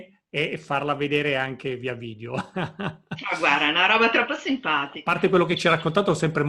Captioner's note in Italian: risate